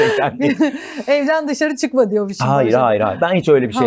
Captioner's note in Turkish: kahkaha